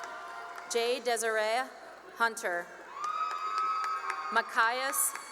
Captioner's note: cheering and applause; cheering and applause